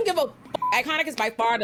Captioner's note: beep